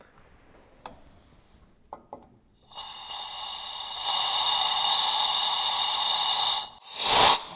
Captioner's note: drill whirring